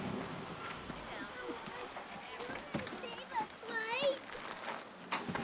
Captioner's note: sirens wailing